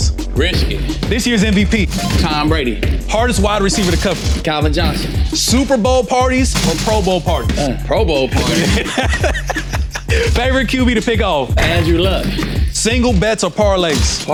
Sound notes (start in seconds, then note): 7.6 laughing